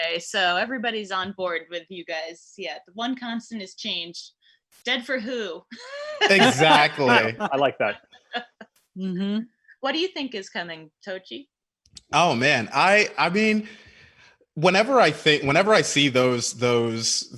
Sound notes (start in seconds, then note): 5.7 laughing